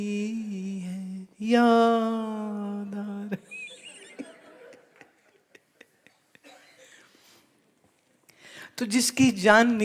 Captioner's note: laughter